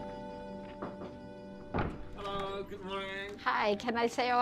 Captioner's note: knuckles knocking